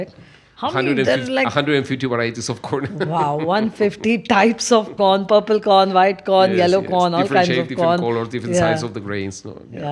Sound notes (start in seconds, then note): 0.2 laughs